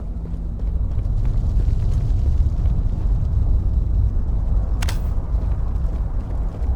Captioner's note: laser shot